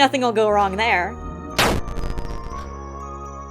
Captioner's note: bite of '83 sound